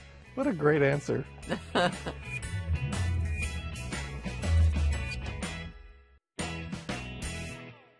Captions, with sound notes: What a great answer. [Barbara chuckles]